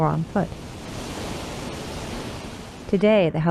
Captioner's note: water splashes